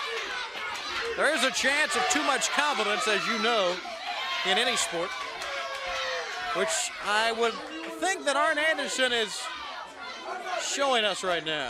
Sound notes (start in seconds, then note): 3.9 crowd cheering